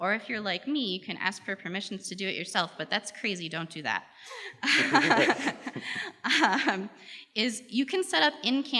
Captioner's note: laughs